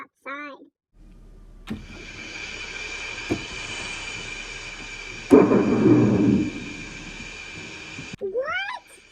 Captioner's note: thunder